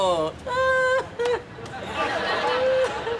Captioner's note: laughs